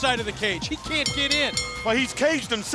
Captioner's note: bell rings